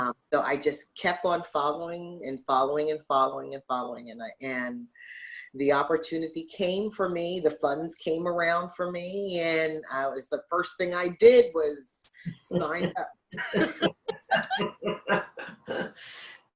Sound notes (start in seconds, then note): 13.3 laughs